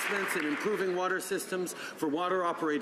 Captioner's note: some Applause